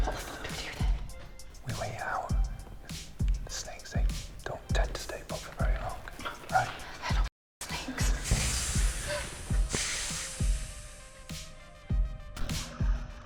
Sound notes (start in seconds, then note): 7.7 snake hissing; 10.2 dramatic music